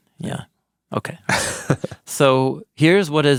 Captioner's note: laughing